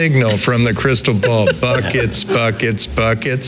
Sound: laughing

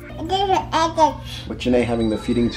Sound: baby mumbling

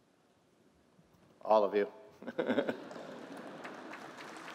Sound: laughter; applause

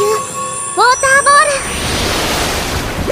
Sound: waterfall

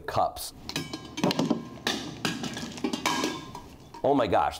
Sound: cups clang to the floor

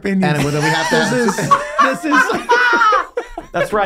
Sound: all laughing

